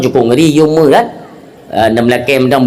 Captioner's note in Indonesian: none